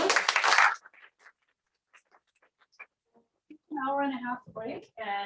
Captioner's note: applause